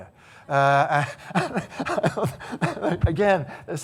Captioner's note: laughing